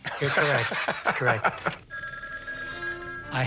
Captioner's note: phone ringing